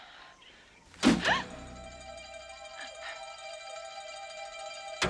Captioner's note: Taryn gasping